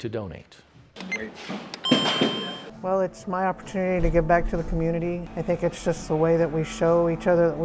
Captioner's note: take nat... medical device machine beeping